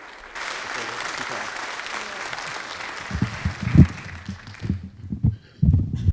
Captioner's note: audience applauding; applause drowns out exchange